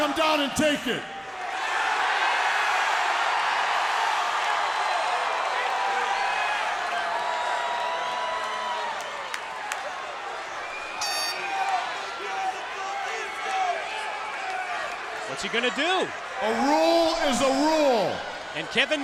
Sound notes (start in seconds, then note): 3.5 crowd cheering; 9.4 crowd chatter